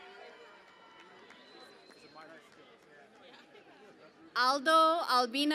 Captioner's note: cheering and Applause